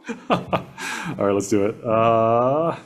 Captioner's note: laughs